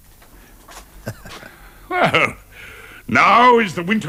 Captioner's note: chuckles